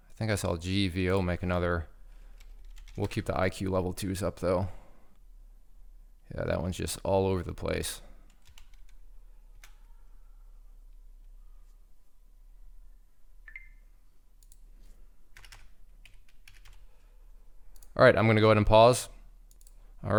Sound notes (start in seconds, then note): 13.4 beep; 16.0 keyboard clicking